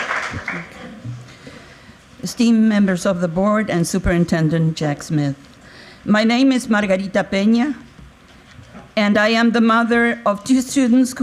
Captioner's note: applause